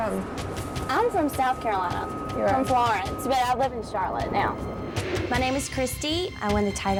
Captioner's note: gentle music; shimmering tone